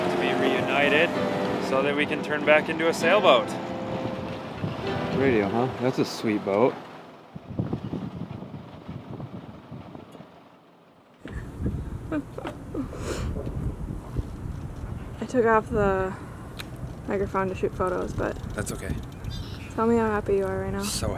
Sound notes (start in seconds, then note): 12.0 laughing